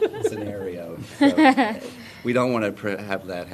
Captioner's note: laughter